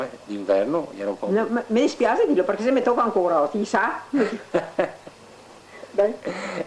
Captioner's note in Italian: Si ride